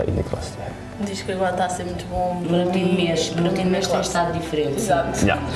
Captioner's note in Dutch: en haar moeder converseren in het portugees